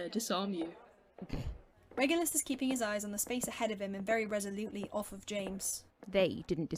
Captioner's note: Regulus snorts